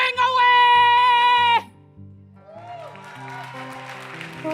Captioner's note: applause